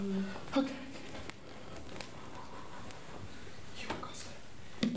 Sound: deep breathing; whispering

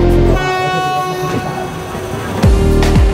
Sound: train horn; upbeat music

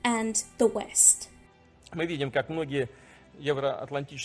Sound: Vladimir Putin speaking in Russian

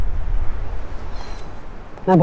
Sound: Ananya sighs

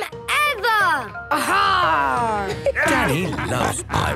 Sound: laughter

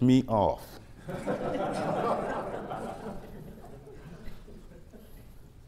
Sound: laughter

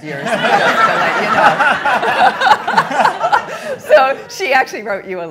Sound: all laughing

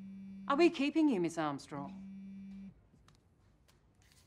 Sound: phone ringing

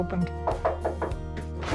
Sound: knocking

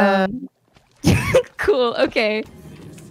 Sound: laugh

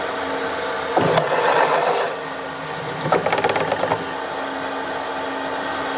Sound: short, hard clicking, rattling, whirring

